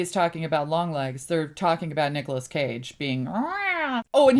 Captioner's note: goofy cat-like voice